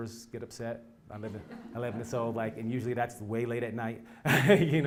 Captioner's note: laugh; laugh